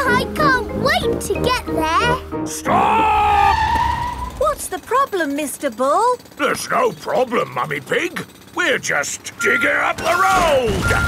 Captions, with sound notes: I can't wait to get there! -Stop! -(TIRES SCREECHING) What's the problem, Mr. Bull? There's no problem, Mummy Pig. We're just digging up the road!